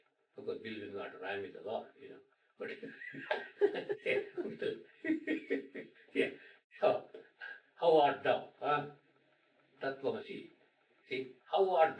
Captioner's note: laughter